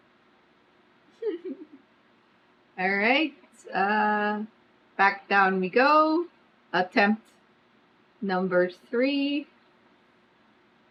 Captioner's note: laughs